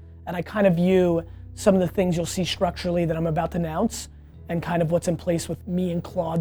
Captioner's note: none